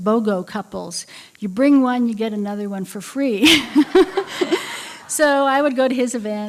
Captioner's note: laughter